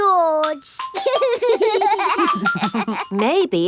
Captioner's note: giggling